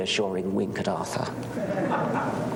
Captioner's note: laughter